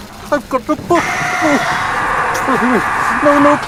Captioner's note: john screams